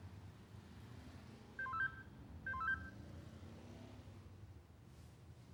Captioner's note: phone beeps